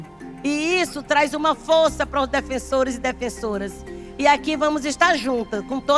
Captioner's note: speaking in Portuguese